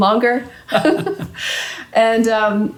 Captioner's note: laughing